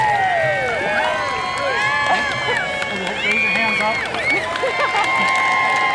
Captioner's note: cheers